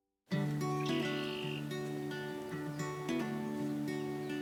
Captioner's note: birds chirping, peaceful music